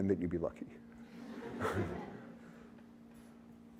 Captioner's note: laughter